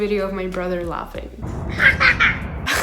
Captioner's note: brother laughing